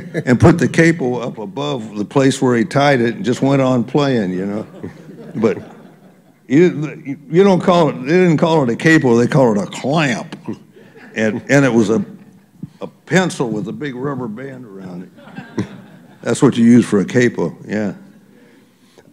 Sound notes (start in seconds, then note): 9.8 laughter; 15.1 laughter